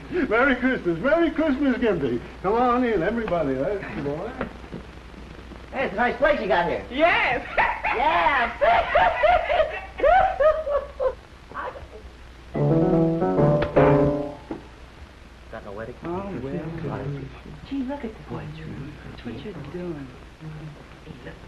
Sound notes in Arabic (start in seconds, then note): 7.4 ضحك; 12.5 موسيقى البيانو